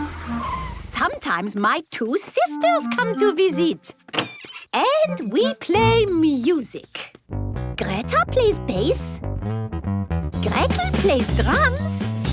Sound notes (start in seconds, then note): none